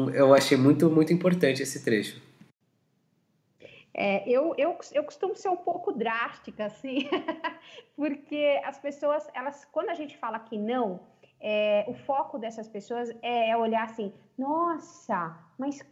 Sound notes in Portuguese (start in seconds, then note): 6.8 risos